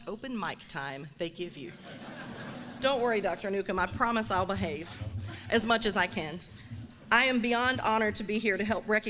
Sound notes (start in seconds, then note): 1.7 laughs